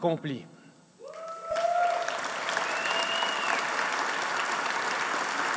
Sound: applause

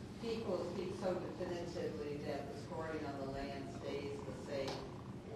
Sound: speaking off microphone

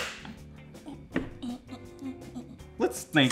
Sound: hands clap; makes soft, happy sounds

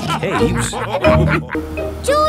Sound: all laughing

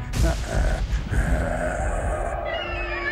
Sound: growls; screaming

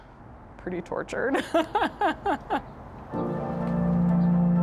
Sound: laughs; upbeat music

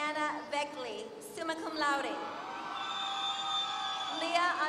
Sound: applause

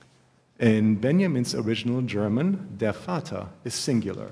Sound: german

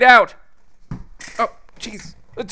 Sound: thud

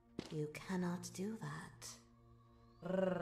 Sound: growls

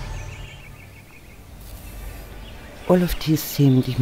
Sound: bird song

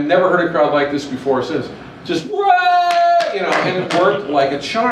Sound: cheering

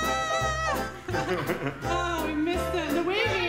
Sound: laughing

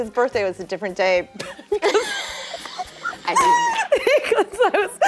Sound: laughter

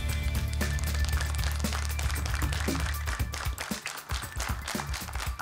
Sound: applause

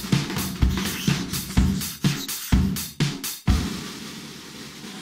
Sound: marker writing

